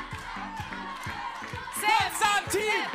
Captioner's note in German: Jubel